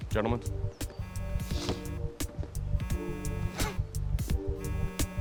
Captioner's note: phone buzzes